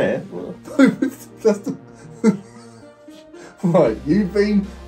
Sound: laughing

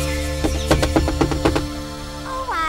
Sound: knocking

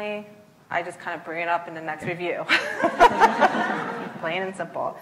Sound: laughs

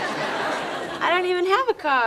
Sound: audience laughing

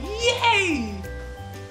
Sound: cheers

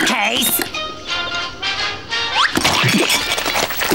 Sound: TV playing

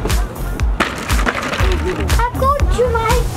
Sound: bridge clattering

